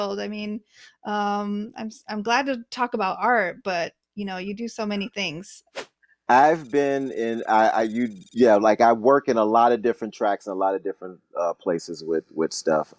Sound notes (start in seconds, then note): 5.4 whooshing sound